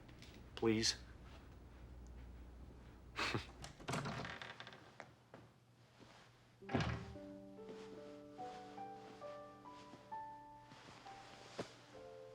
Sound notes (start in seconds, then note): 3.2 chuckles